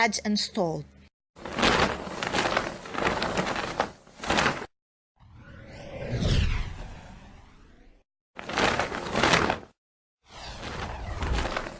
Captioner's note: witch's broom zig-zags, dodges & stalls